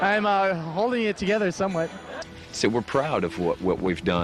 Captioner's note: laughs